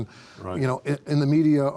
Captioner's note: pat